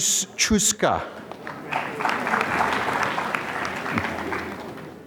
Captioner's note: applause